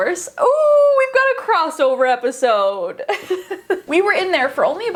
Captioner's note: laughs